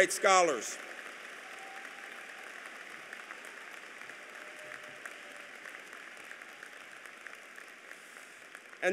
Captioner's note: applause